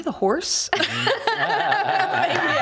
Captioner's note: laughing